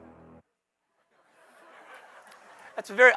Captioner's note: laughter